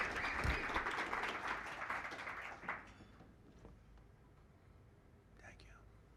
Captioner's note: applause